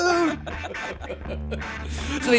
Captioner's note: laughter